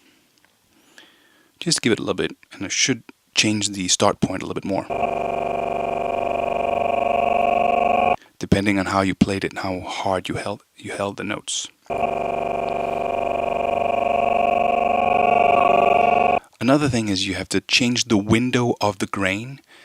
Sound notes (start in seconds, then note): 4.9 sound sample stuttering; 11.9 sound sample stuttering